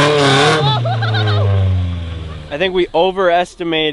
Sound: yelling

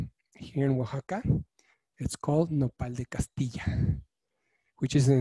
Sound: speaking in foreign language

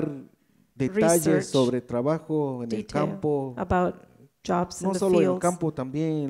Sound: speaks in foreign language

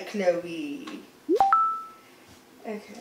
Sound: social media notifications dinging

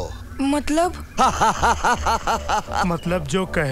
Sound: laughs

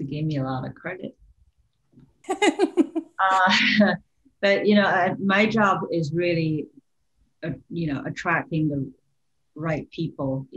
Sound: laughter

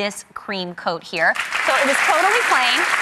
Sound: applause

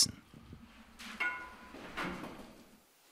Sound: metallic clinking

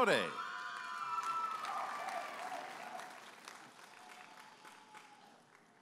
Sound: audience applauding and cheering

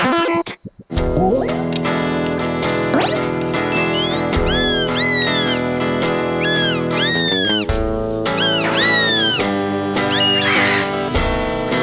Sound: chirping

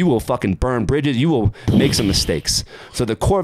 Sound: imitates explosion

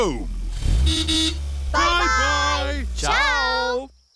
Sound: horn toots

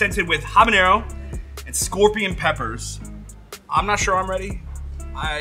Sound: none

